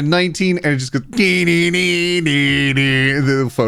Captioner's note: humming